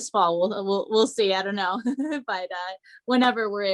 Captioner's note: chuckles